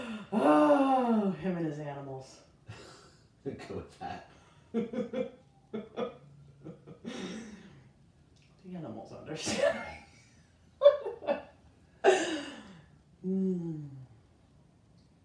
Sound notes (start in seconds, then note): 4.7 chuckles; 10.9 laughs